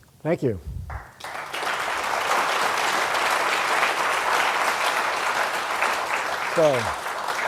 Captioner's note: applause